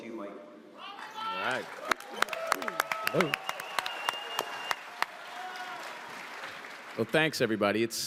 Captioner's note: audience cheers